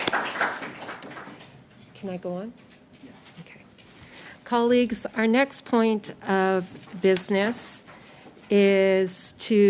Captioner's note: applause